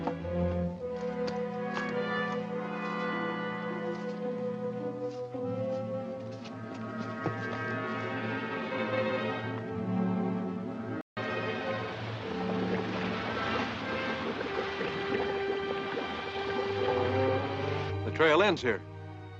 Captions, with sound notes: [Water bubbling] The trail ends here.